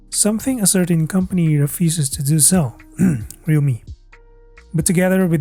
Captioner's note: ahem